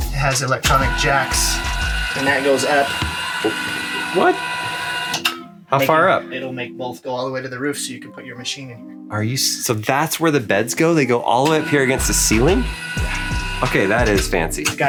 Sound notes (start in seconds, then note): 3.0 jacks whirring